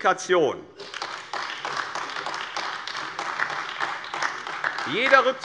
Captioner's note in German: Beifall AfD